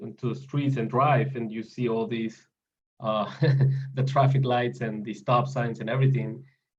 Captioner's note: laugh